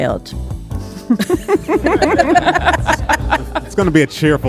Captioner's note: hosts laughing